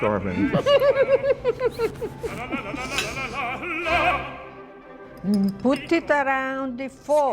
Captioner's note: laughs